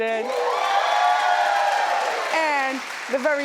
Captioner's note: audience cheers